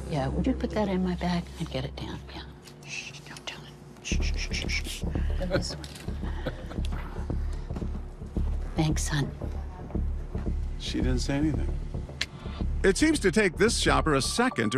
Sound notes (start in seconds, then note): 6.2 chuckles